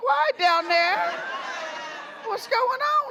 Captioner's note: crowd laughs